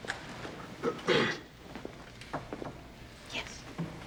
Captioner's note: Rick clears throat